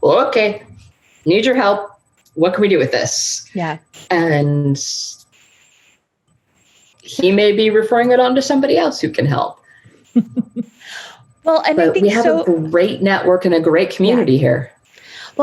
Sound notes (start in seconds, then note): 10.0 laughing